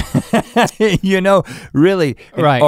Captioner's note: Rhett laughing